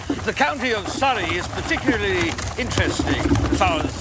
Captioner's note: speaking Spanish